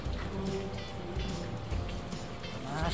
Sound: lapping

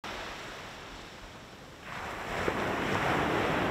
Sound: ocean noise

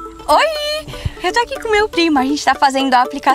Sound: mobile phone ringing

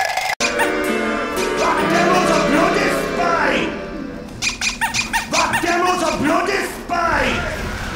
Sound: squeak

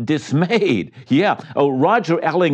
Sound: chuckles

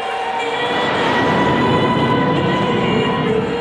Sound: plane engines roaring

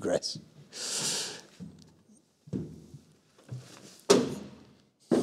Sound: breathes deeply

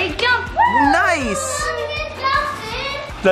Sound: cheers

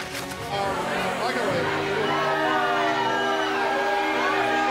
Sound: crowd chattering

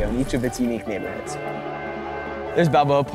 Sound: trolley honks

